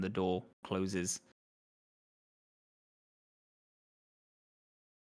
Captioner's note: none